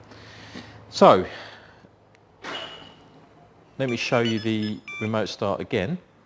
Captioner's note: beep